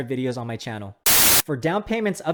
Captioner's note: TV static crackling